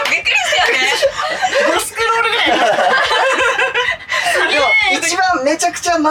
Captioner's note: laughs